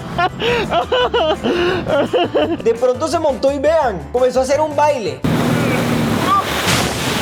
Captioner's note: laughs